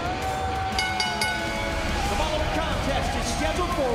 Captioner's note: bell ringing